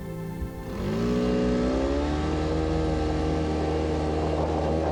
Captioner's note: engine humming